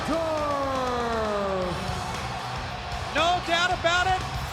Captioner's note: crowd cheering